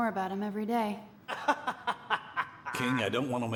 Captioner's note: Sargon laughing